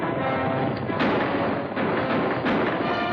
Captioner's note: gunshots and horse trotting